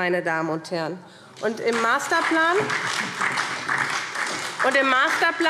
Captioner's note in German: Beifall SPD